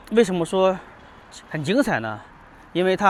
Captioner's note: 英语; 英语